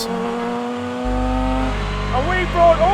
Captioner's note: engine roaring